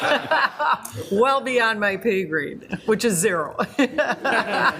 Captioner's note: laughs